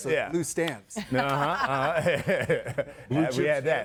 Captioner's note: laughs